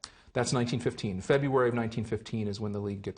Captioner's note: voiceover